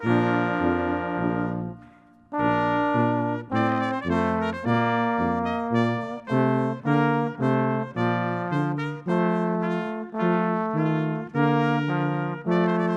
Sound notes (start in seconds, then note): none